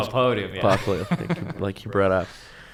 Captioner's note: laughter